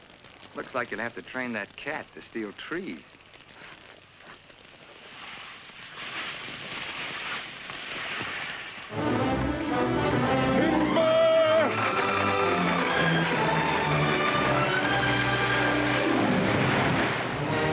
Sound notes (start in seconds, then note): 5.2 water hissing; 8.9 upbeat dramatic music; 15.3 big crash